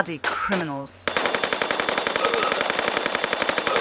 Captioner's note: bratatata ♫